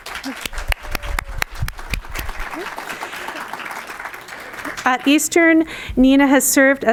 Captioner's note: applause